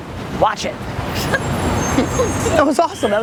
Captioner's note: chuckling